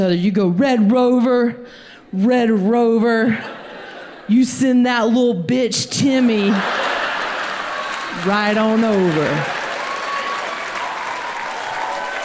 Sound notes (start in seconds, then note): 6.6 audience applauds